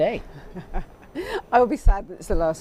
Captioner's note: chuckling